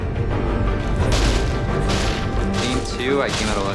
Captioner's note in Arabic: تحطيم مواد